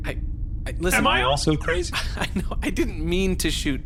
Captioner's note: laughing helplessly